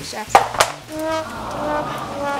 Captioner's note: playful music; crowd